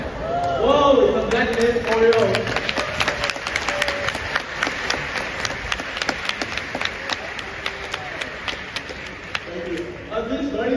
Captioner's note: clapping noises, thank god it worked, phew